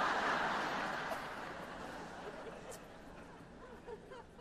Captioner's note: laughter